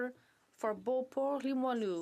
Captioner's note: speaking in french